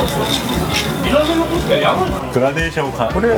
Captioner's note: swirling